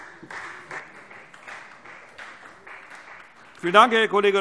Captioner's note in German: Beifall Freie Demokraten und vereinzelt SPD